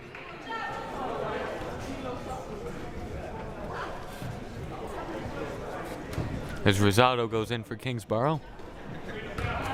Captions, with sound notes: (crowd murmuring) As Rosado goes in for Kingsborough.